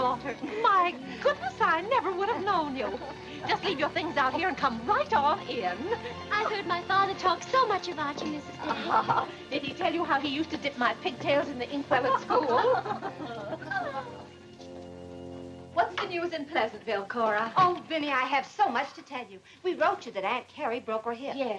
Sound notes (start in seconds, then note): 12.0 laughter